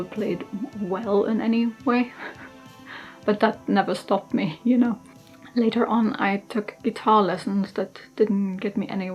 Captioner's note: laughs